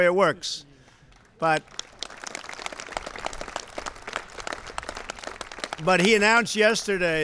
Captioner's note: applause